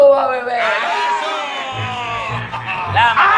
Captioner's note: laughs